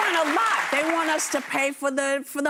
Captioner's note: applause